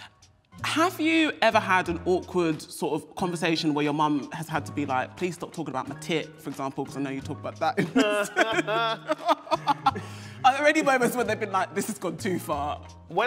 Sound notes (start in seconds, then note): 7.7 both laughing